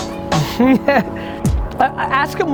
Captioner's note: laughing